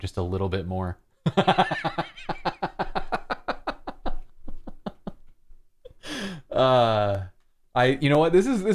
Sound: laughter

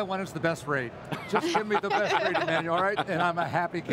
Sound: group laughs

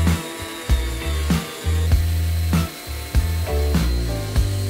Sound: sander revving

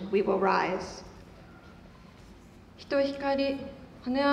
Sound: none

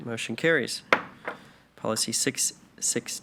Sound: gavel knocks

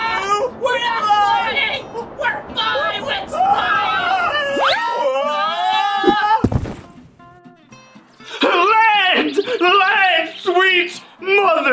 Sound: screams

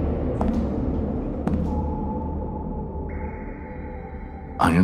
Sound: echoed footsteps approaching; echoed water dripping

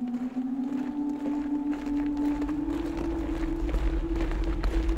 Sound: marching

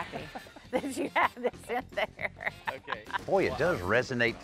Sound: chuckles

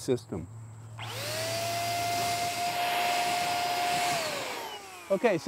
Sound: spray gun buzzing

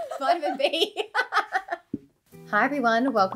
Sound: laughs

